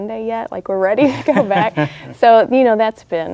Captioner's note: man laughs